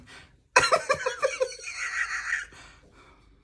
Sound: laughs

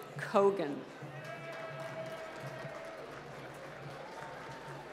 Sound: applause

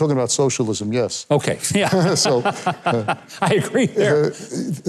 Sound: men laugh

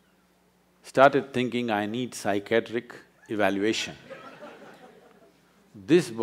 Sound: laughter

